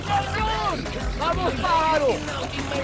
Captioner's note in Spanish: Gritos y exclamaciones